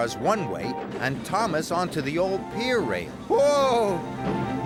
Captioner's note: trucks laughing